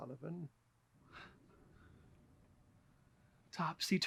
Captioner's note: laughs quietly